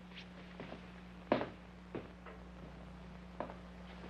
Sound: footsteps banging

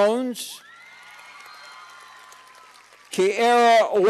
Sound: cheers and applause

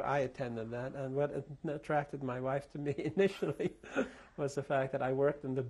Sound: laughs

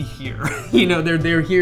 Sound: laughter

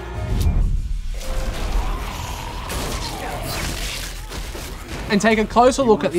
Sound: monsters growl; gun blasts

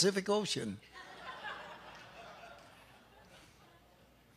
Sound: audience laughs

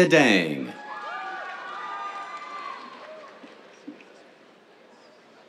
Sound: cheers, applause

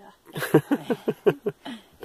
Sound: laughs

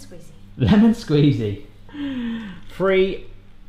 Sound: laughs

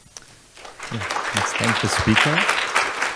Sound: audience applause

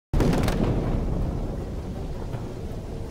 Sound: rumbling, Explosions Continue

